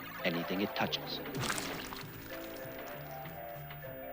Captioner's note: splashing